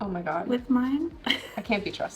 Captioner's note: laughing